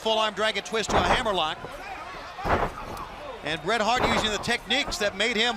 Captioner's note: crowd chatter